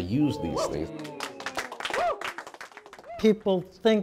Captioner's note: cheering and applauding